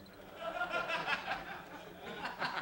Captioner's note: laughter